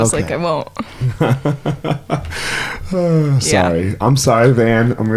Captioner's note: chuckles; sighs